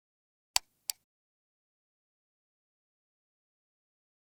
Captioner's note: mouse clicks